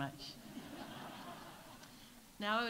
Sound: audience laughs

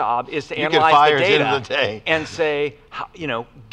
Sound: laughs

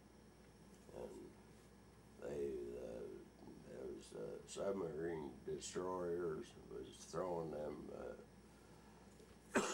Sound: coughs

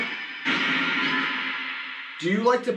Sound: radio noise swelling

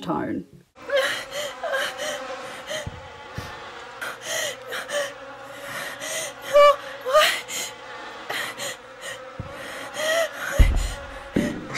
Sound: flies buzzing, hyperventilating/whimpering

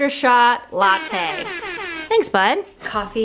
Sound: airhorn honks

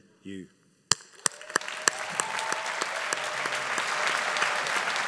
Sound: audience applauding

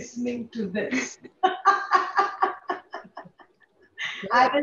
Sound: laughs

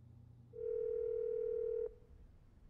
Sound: dial tone ringing

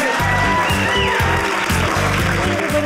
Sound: audience cheering

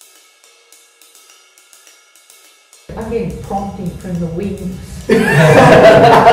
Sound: laughter

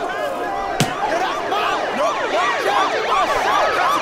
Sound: siren wailing

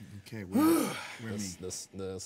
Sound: man groaning

